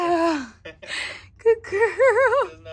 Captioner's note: laughs